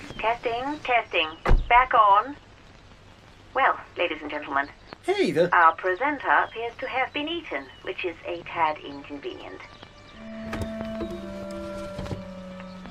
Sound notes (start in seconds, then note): 0.3 radio Announcer; 5.9 radio Announcer; 10.1 gentle music